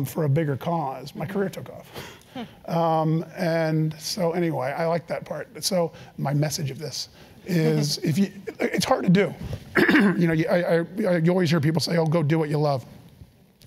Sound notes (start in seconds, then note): 9.7 cough